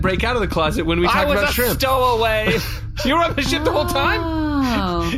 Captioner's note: sobbing